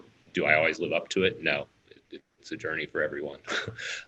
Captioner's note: laughs